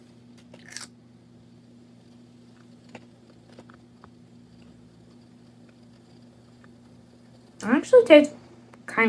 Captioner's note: crunch